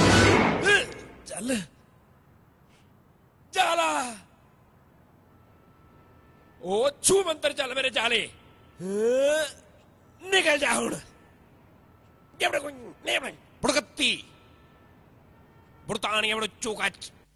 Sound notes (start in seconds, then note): 0.6 funny Punjabi noises